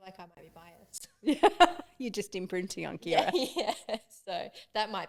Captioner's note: laughing